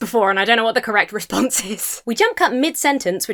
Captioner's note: laughs